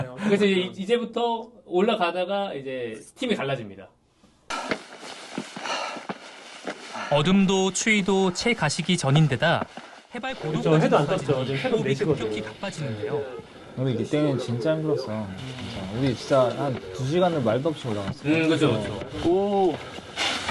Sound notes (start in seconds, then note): 4.4 production crew's heavy breathing